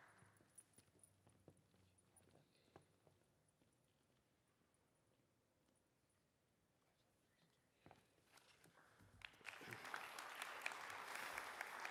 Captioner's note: applause